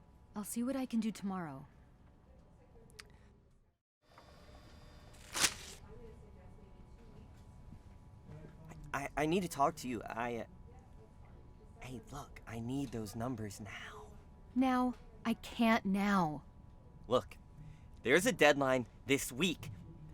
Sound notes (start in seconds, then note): 2.9 tongue click; 5.1 paper rip; 13.5 whispering